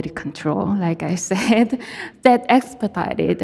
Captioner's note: chuckling